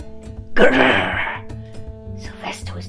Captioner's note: lion roars